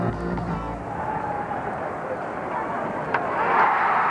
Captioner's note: ball smacking, crowd cheering